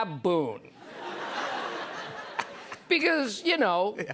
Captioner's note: laughter